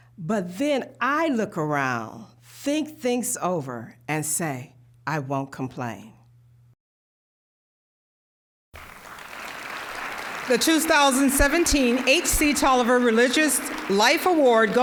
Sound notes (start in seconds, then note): 8.7 applause